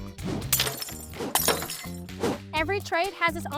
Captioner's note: lively music; glass shattering